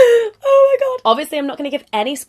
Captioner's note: fake sobbing